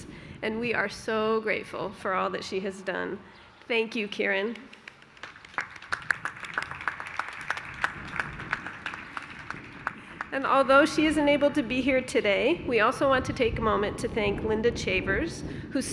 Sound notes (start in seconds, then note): 4.5 applause